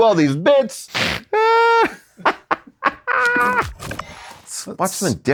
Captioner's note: laughing